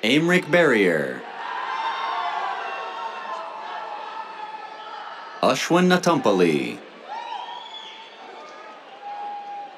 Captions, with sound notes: Aymeric Barrier. [CHEERS] Ashwin Natampalli. [CHEERS, WHISTLES]